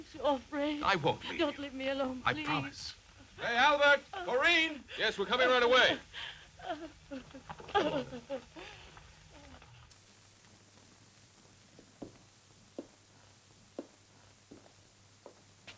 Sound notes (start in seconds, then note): 6.6 Corinne whimpers